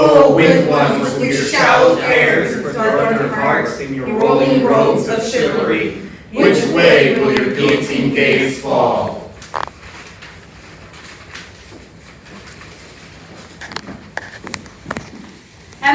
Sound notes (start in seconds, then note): 0.2 in Unison; 9.3 shuffling papers